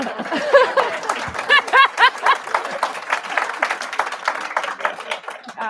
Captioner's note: applause